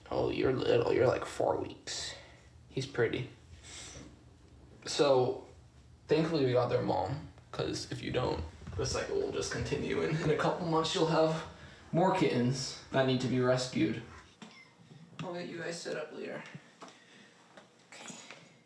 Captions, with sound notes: Oh, you're little, you're like four weeks. He's pretty. So thankfully we got their mom 'cause if you don't, the cycle will just continue, and in a couple months, she'll have more kittens that need to be rescued. (kitten meows) I'll get you guys set up later, okay.